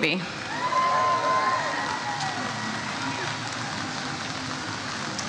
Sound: audience cheers

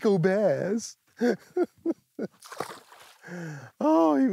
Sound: laughs

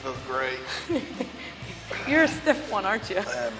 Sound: laugh

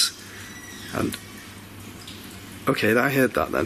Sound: door squeaks

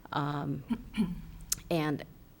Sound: clears throat

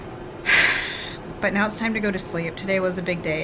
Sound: sighs

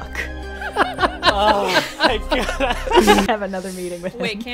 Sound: laughter

